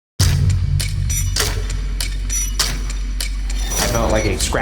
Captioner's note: the clatter of climbing on all the furniture